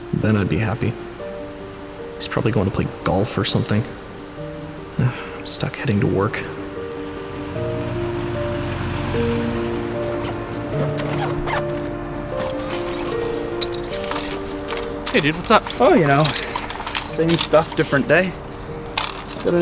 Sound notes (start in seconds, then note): 6.8 engine revving; 10.1 zipping bag